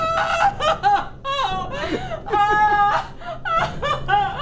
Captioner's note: Amy screaming